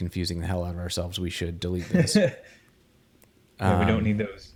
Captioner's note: chuckles